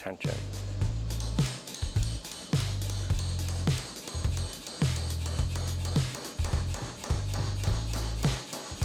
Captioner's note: tools tap